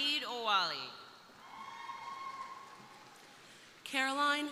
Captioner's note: crowd cheering